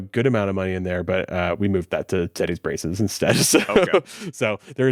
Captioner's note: laughs